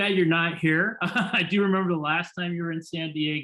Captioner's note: laughter